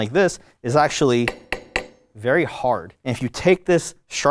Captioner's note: knife taps